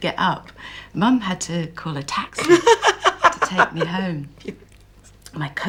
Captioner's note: gail laughs